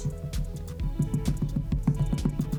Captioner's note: violent tapping